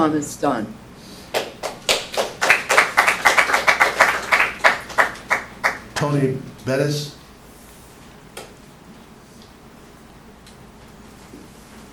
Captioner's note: applause